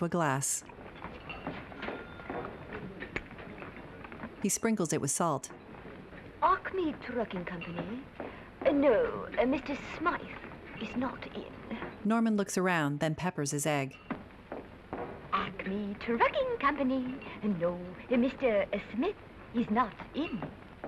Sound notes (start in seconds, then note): 0.3 restaurant din; 15.1 cheerily